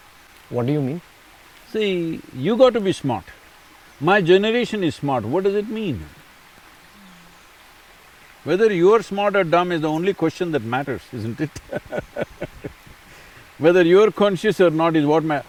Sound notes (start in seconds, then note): 10.9 laughs